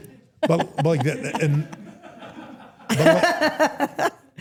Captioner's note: everyone laughs